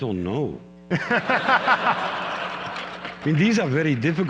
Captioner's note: laughter